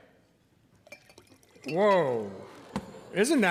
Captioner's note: audience exclaiming